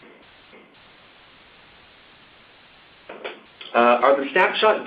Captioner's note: silence